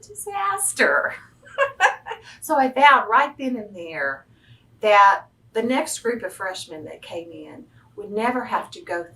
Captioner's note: laughs